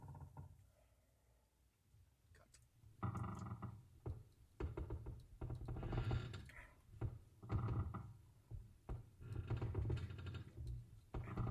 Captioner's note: creaking overhead